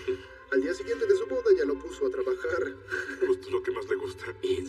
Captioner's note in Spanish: Ríe